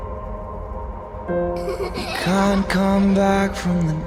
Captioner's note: Hazel's laugh